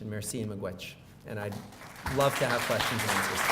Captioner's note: audience applauds